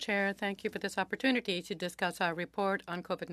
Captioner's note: speaking French